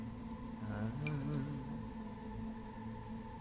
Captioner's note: hums